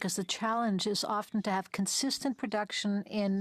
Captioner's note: speaking French